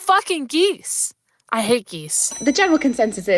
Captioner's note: bell ringing